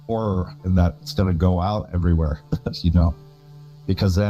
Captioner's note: chuckles